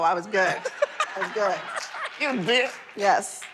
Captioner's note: laughter